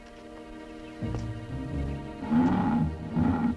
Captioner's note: growl